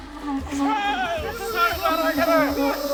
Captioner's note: yelling